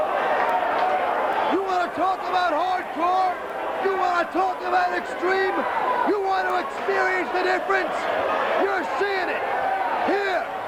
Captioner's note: crowd chatter